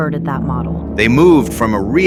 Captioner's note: excited